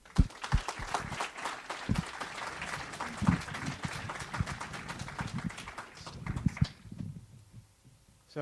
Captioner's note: audience applauds